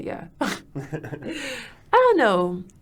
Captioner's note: both laughing